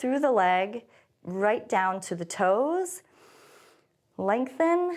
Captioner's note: inhales